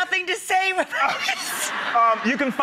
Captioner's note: crowd laughs